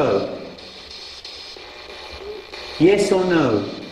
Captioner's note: static buzzing